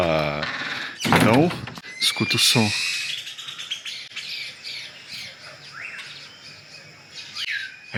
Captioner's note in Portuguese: sons de pássaros